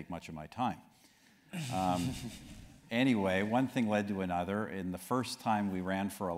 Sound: laugh

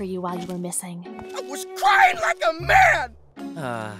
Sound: crying like a man

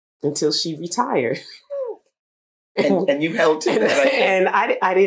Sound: laughter

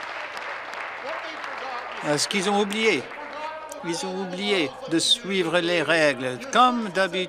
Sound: some Applause

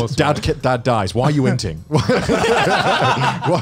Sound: laughs

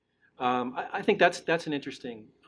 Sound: laughing

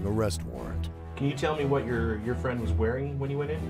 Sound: voiceover

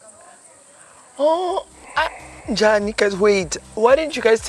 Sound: speaking in foreign language

